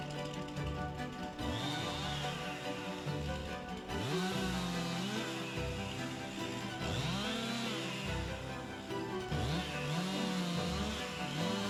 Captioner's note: machinery whirring; upbeat music